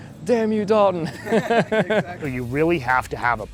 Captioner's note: laughs